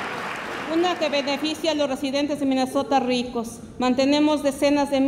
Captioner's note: speaks Spanish